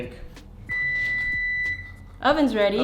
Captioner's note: oven beeps